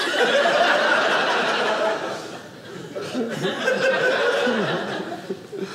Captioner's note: audience laughing